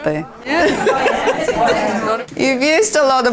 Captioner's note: participant chatter